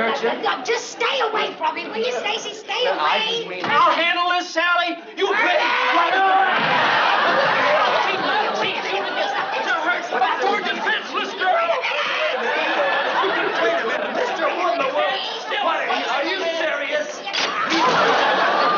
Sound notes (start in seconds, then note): 8.3 yelling; 12.0 screaming